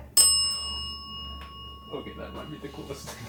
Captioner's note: bell dings